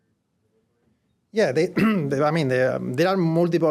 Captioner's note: cough